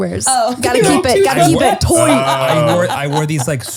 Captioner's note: laughter